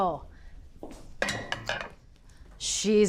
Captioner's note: pan clatters